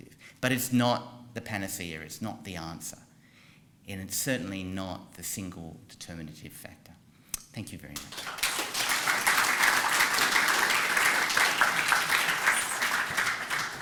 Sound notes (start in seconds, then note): 7.9 applause